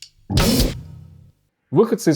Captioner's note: disjointed commotion